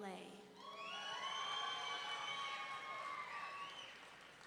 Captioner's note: audience cheering